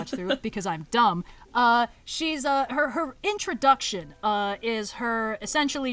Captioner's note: laughs